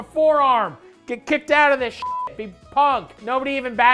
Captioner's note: beep